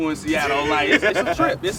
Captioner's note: all laugh